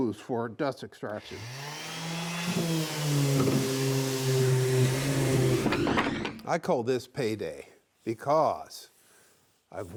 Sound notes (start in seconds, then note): 1.2 sander humming